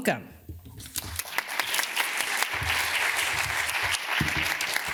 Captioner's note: audience applauds